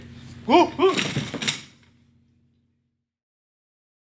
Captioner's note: chair crashes